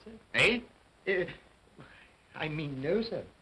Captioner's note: Cratchit stammers